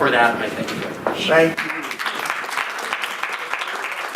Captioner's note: clapping